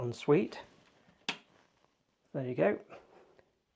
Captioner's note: light switch clicks